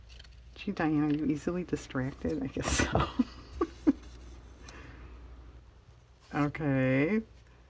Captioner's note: laughs